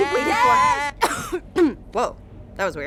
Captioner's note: coughs